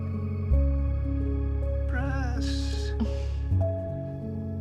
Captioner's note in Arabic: ضحكة مكتومة آنا